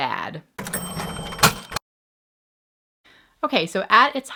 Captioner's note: cash register ringing